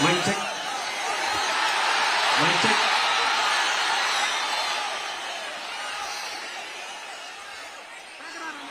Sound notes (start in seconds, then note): 2.7 applause